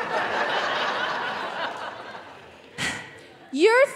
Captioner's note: audience laughing